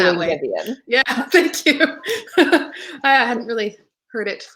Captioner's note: laughing